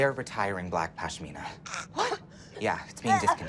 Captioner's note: ava choking; ava gasping